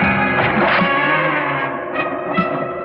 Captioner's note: splashing; tense music